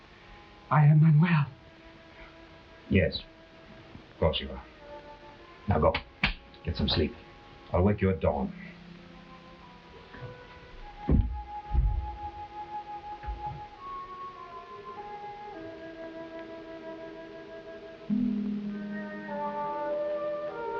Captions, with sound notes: - I am Manuel. - Yes, course you are. Now go. (hand patting) Get some sleep. I'll wake you at dawn. (soft uneasy music) (uneasy music)